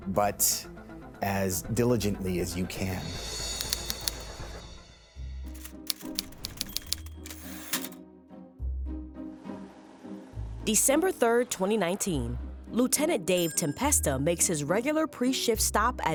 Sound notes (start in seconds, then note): 4.0 typewriter typing; 5.6 typewriter dings; 6.6 lighthearted music